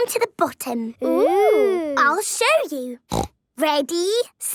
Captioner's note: snorting